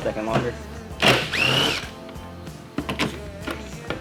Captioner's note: drill